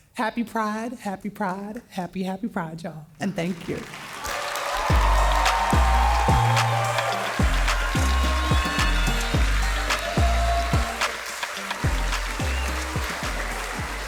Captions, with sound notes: Happy Pride, happy Pride, happy, happy Pride, y'all, and thank you. - (cheerful music) - (audience cheering)